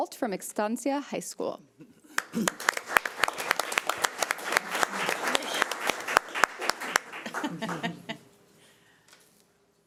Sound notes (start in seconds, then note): 2.1 audience clapping; 4.5 panel members laughing